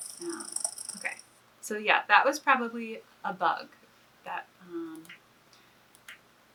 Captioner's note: buzzing sound plays